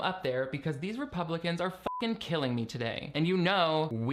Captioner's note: beeping